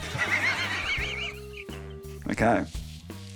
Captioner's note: laughs